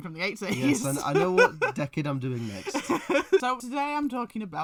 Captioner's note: laughs